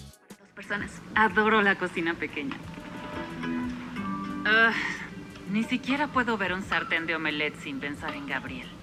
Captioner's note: spanish audio from Emily in Paris